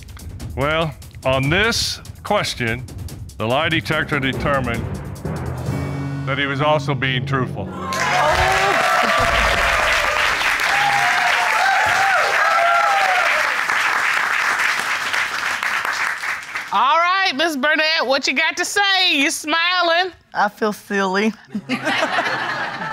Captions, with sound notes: Well, on this question, the lie detector determined... that he was also being truthful. [audience whooping] All right, Ms. Burnett, what you got to say? You're smiling. -I feel silly. -[all laugh]